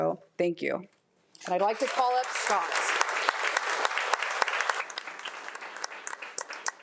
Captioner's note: audience applauding